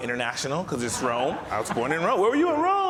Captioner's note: audience laughs